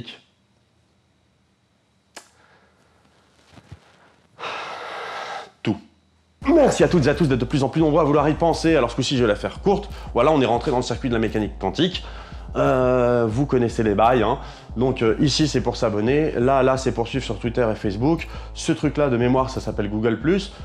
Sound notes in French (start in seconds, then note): 4.4 soupir